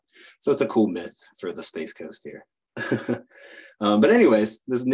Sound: chuckles

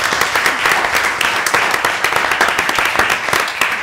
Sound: applause

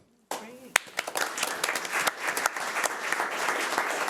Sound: audience clapping

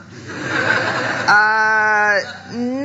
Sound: audience laughing

